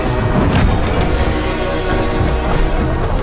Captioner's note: clattering; sloshing